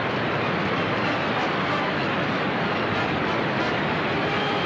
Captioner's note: thunder claps